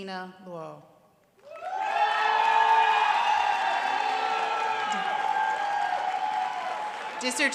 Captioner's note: applause